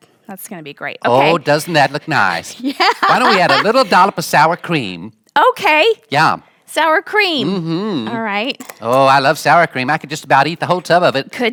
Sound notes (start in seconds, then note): 1.1 laughing